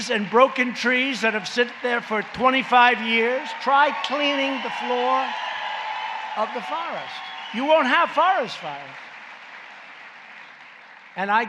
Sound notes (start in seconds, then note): 2.6 applause; 9.4 applause